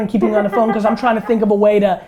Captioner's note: laughing